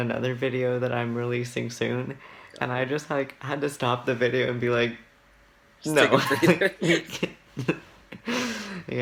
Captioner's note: laughs